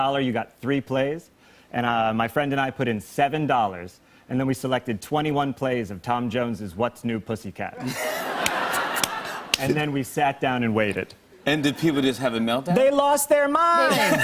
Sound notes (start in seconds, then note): 7.8 laughter